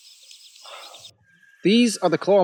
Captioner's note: Bailey sighs